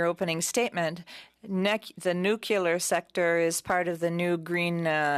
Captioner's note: speaking French